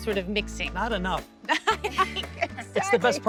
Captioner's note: laughter